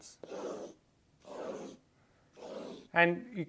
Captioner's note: pen tapping